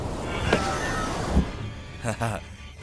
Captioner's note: scream